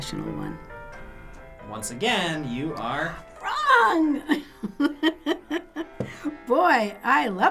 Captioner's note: chuckles